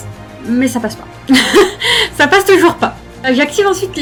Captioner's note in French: rires